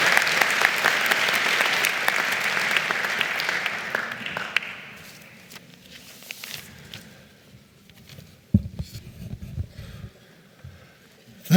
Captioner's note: applause